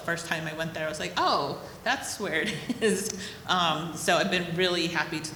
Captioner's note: chuckles